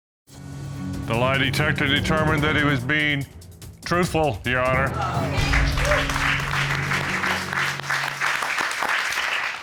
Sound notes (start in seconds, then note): 5.3 audience applauding